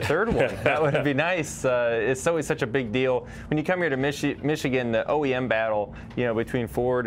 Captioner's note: laughter